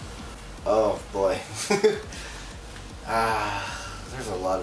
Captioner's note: laughs